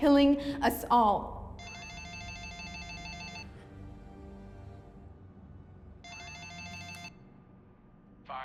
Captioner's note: phone rings